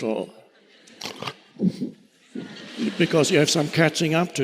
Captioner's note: audience laughing